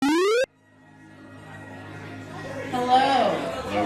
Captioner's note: vintage video game sound